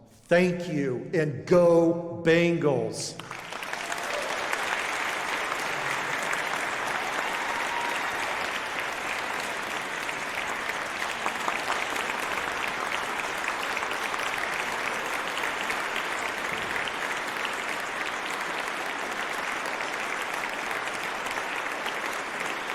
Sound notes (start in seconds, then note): 4.4 applause